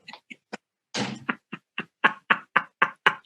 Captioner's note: sarcastic laughter